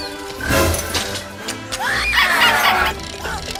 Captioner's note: crowd booing; crowd booing, toy squeezes; suspense strikes, sid screams